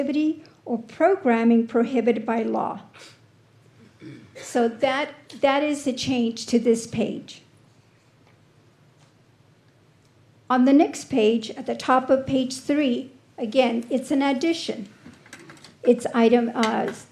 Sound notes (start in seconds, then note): 3.8 clears throat; 4.0 snorts